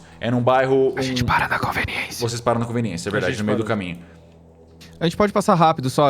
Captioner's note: whispering